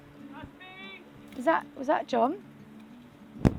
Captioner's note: shouting off camera